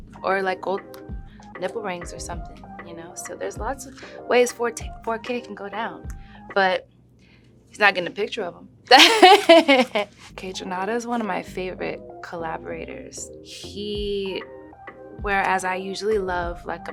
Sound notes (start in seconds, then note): 8.9 laughs